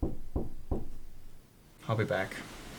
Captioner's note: knock at door